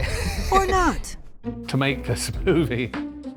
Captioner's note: laughing